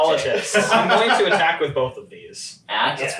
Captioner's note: laughing